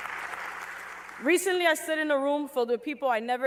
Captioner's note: applause